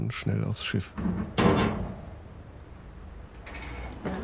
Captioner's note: metal door clangs